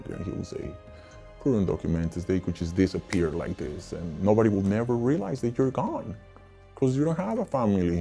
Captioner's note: snaps